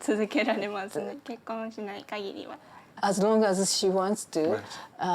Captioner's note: speaks Japanese